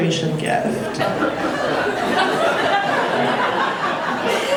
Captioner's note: audience laughing